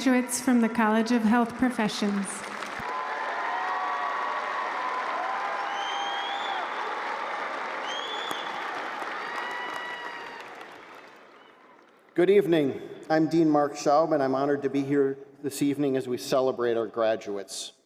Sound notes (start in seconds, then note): 9.3 cheers and applause